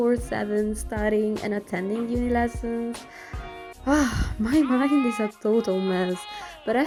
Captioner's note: big sigh